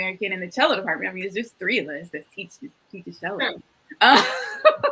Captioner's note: laughs